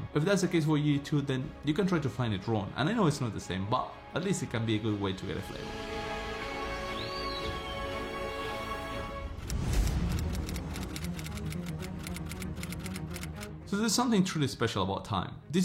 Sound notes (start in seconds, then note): 7.1 serene music; 9.5 keyboard typing